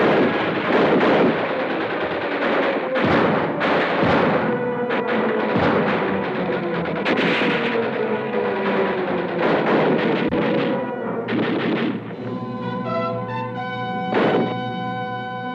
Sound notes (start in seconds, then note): 1.6 gunfire blasts